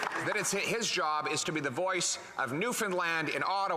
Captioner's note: some Applause